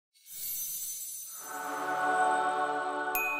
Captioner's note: logo humming and chiming